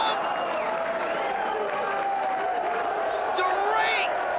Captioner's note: crowd cheers